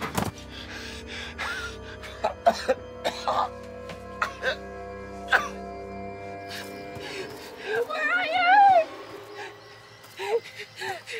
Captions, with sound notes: [coughing] Where are you?!